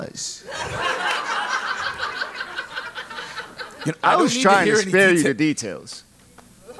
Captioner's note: laugh